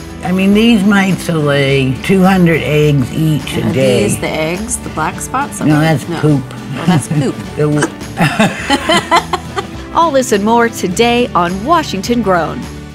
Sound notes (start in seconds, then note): 8.1 both laughing